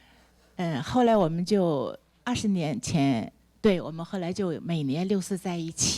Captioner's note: speaks Mandarin